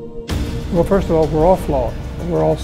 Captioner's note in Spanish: Voz en off masculina